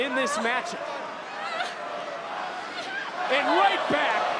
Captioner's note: audience chanting